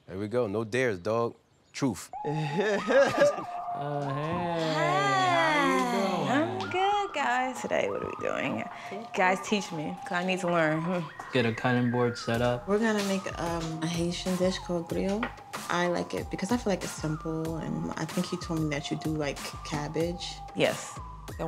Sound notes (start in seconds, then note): 2.2 laughs